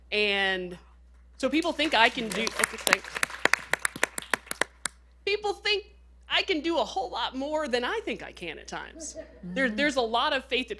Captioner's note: applause